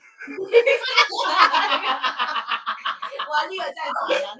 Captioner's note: laughing